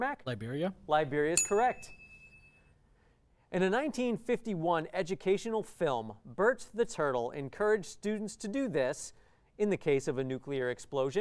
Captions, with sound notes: Liberia? Liberia's correct. [ding] In the 1951 educational film, Bert the turtle encourage students to do this in the case of a nuclear explosion.